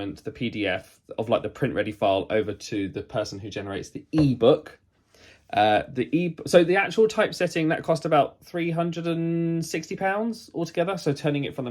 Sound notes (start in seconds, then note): none